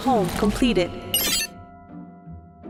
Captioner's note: soft beep